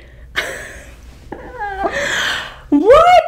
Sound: laughing

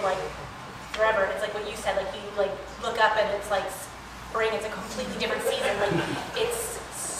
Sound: laughter

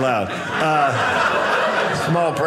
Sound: audience laughing

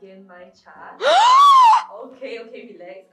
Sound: huge gasp

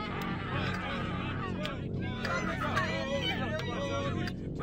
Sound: people cheering indistinctly

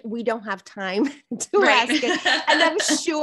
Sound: laughs

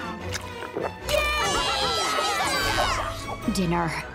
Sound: cheering

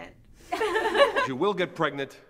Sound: girls laugh

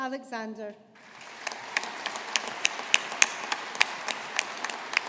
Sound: audience applauding

